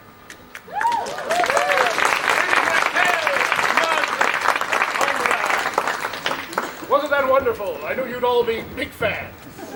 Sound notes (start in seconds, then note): 0.5 applause